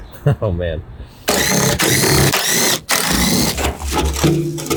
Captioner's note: drill whirring